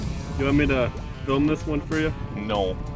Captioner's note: voiceover